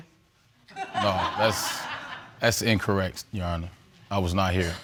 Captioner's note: audience laughs